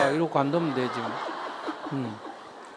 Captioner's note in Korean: 청중웃음